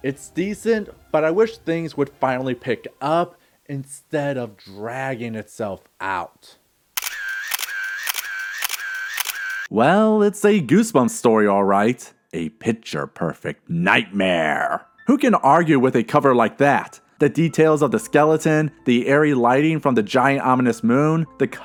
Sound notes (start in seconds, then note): 7.0 camera clicking